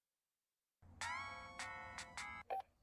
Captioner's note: ringtone